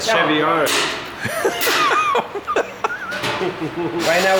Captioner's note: laughing